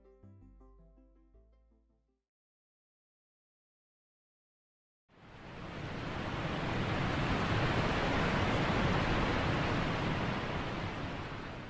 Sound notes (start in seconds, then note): 5.1 waterfall sound